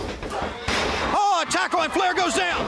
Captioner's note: crowd chatter